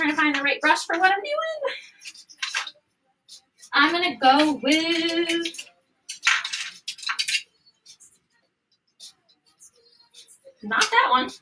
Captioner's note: laughter